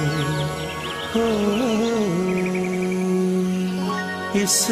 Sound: humming

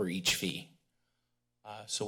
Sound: pause

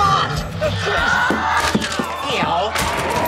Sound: yelling

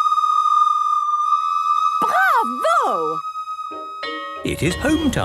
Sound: school bell ringing

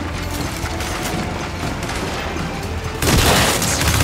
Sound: gunfire

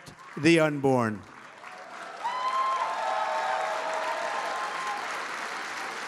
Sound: applause

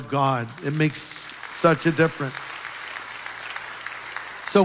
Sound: applause

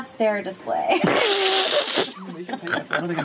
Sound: laughing

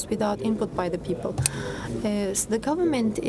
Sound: speaking foreign language

